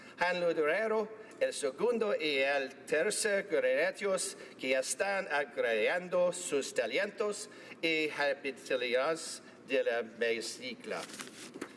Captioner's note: speaking Alternative Language